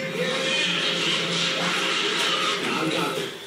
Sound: applause

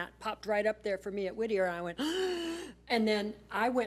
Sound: gasps

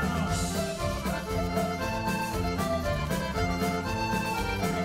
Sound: dancers shouting

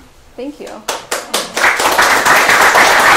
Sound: applause

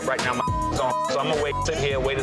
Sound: beeps

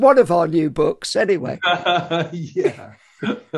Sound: laughs

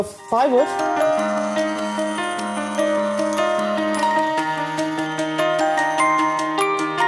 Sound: band-saw sounds

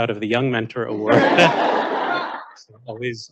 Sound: audience laughing

